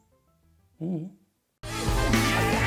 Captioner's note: humming